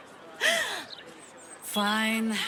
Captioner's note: gasps